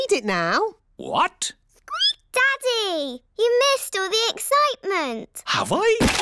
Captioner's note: squeaks